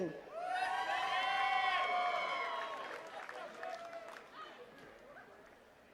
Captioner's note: attendees cheering and clapping